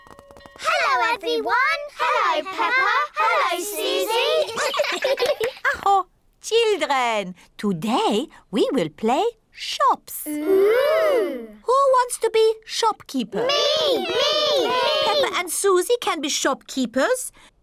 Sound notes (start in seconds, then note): 3.9 all laugh; 4.3 claps hands; 5.5 exclaims